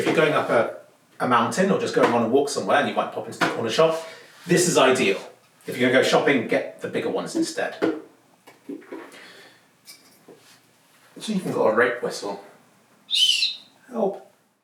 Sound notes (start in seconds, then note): 13.1 whistle